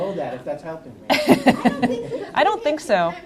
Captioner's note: laughs